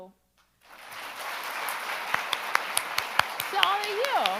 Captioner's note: audience and applauding